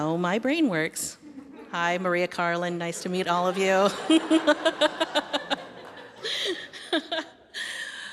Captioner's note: laughter breaks out; wryly; laughter continues; laughter fades as continues